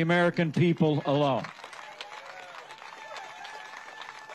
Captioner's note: cheering and applause